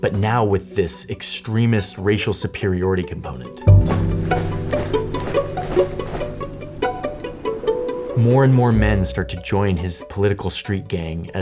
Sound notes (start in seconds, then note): 3.6 footsteps marching